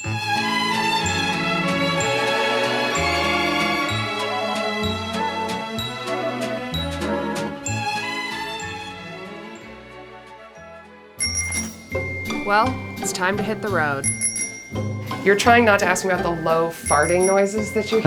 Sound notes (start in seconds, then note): 0.3 uplifting music; 14.3 bell ringing